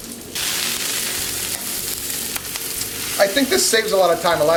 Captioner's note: onions sizzling